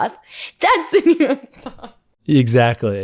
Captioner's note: laughs; laughs